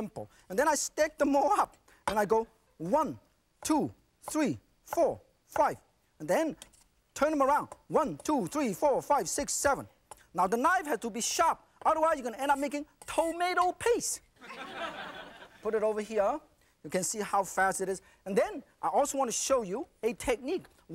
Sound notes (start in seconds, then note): 14.4 audience laughing